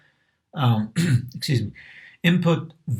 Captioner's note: cough